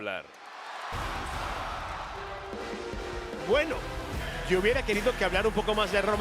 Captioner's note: applause